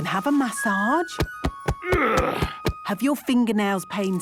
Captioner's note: thumping; moaning